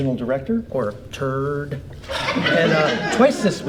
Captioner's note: audience laughs